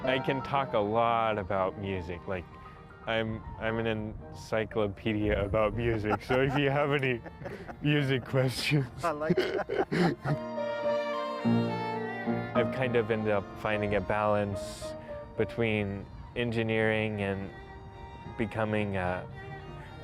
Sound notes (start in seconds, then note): 8.6 laughs; 10.6 symphonic music